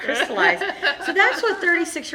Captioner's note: laughing